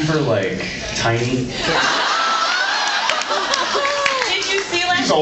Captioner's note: laughs